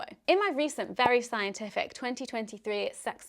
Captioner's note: popping